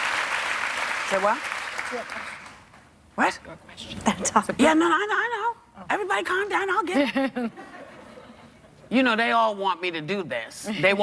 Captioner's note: applause